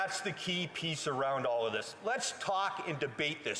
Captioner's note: none